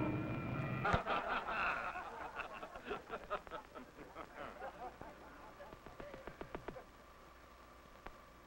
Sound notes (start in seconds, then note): 0.7 crew laughing